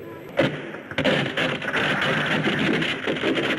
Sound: ice cracking

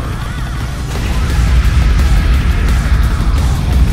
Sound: explosion

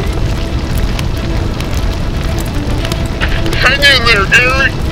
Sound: fire crackling

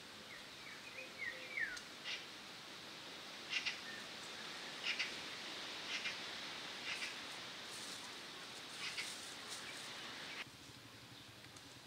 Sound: sound of birds

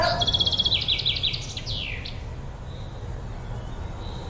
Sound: birds chirping; wind blowing softly

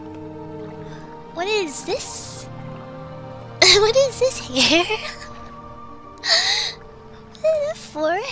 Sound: laughs

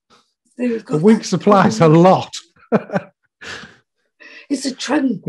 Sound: chuckles

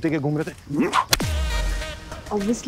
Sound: hitting the stick sound

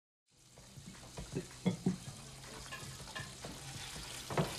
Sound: water running

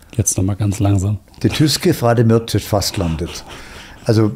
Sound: Norwegian spoken audio

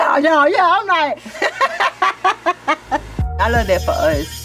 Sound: laughs

